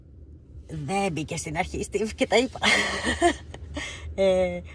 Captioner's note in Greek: γέλια